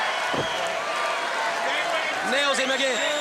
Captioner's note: crowd chatter